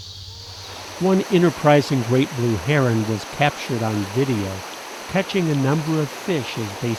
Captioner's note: water flowing fast